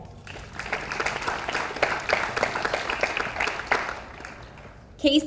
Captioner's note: audience applauds